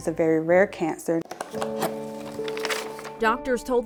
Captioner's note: trunk opening